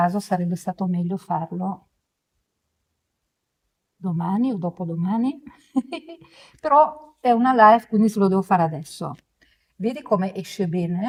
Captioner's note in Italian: risate